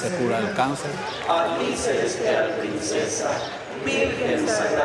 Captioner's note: Spanish spoken audio